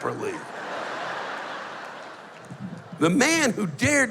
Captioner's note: laughter